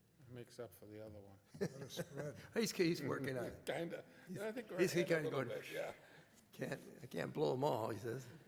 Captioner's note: chuckles